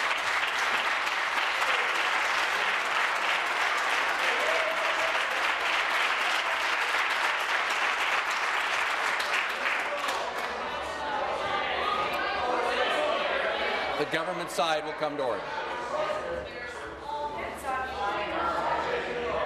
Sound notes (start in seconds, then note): 0.0 some applause; 9.7 applause; 13.7 conversation din